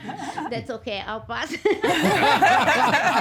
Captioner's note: everyone laughing